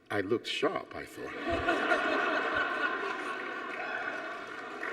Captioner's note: audience laughs